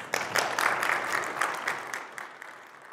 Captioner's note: audience applauding